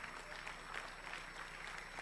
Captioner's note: applause; speaking in native tongue